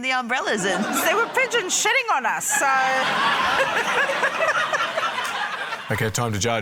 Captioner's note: laughter